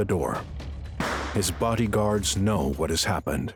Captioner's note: gunshot pops